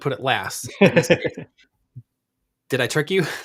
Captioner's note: laughs